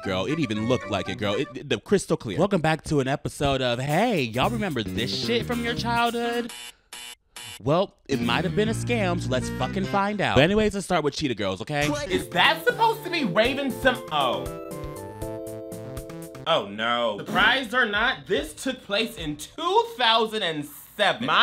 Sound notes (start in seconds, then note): 6.4 buzzer buzzes; 14.7 soft music